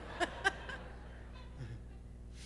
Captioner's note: laughter